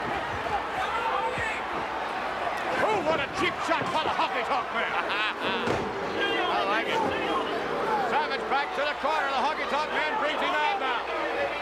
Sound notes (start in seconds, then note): 4.8 laugh